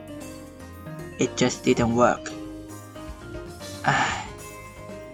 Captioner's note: sigh